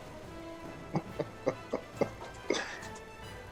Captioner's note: laughter